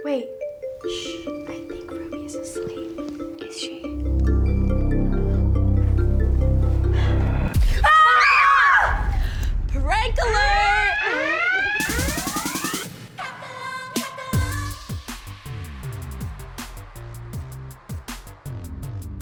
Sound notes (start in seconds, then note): 7.7 all scream; 7.7 screams; 11.0 sirens; 13.2 pop music